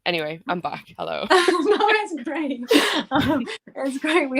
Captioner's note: laughter